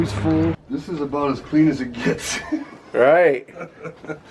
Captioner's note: laughing